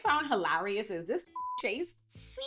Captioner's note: beep